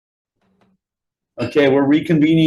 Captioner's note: gavel bangs